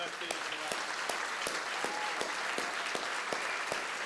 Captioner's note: applause